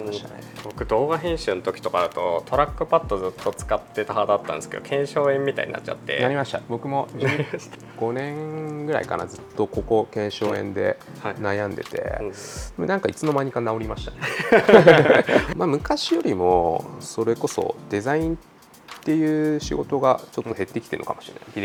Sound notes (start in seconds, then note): 14.2 laughs